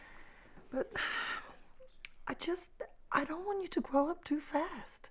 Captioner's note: sighs